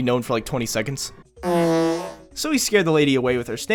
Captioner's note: fart